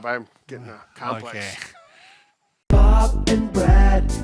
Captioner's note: chuckles